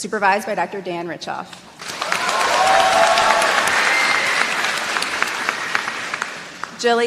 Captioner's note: applause